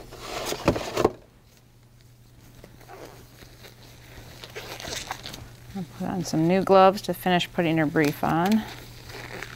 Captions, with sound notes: (gloves squeaking) I'm gonna put on some new gloves to finish putting your brief on.